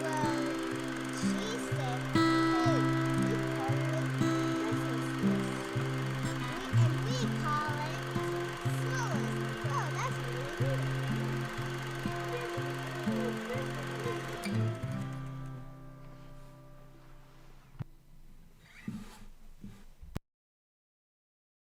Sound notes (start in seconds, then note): 11.8 projector whirling